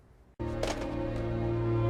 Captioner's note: thud